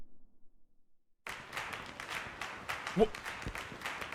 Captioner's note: rhythmic clapping; Skull stammers